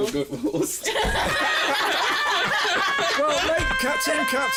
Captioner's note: laughter